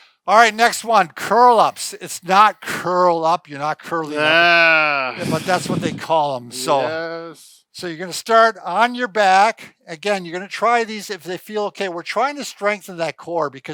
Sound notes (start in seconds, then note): 4.1 groaning